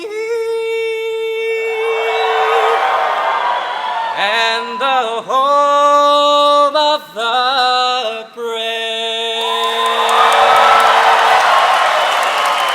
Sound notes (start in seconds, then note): 1.6 audience cheers; 9.4 audience applauds